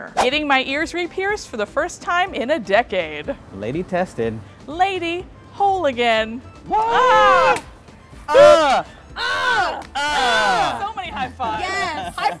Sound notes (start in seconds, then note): 9.2 cheering